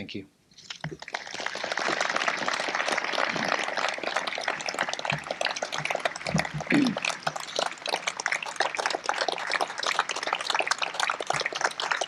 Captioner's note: applause